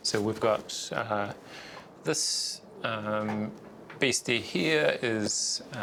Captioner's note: none